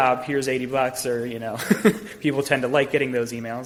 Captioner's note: laughs